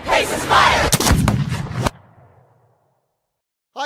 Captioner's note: gunshot